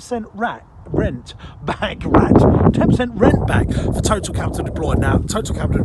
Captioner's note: chuckles